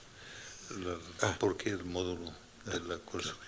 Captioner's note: non-english speech